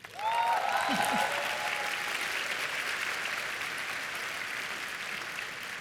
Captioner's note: applause